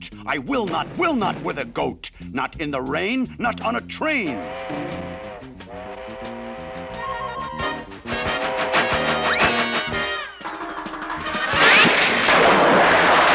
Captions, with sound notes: I will not, will not with a goat. Not in the rain, not on a train. [TRAIN HORN BLARING]